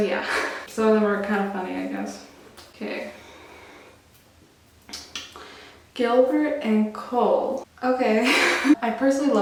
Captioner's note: laughs